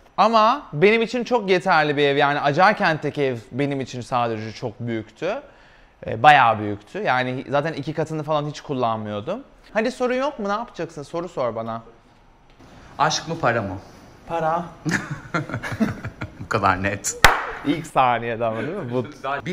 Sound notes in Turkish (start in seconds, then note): 14.8 gülüşme